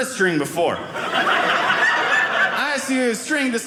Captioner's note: audience laughing